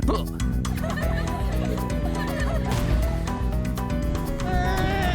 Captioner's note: laughter